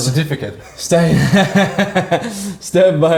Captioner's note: laughing